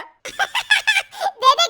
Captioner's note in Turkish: Gülme sesi